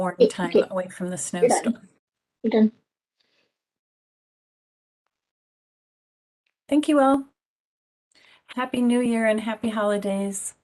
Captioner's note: background conversations